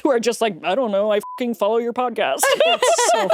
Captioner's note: beep